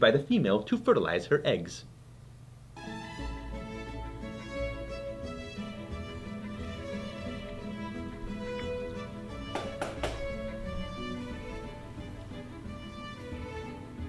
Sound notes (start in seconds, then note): 2.8 gentle classical music; 9.5 book tapping